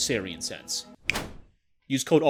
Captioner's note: whoosh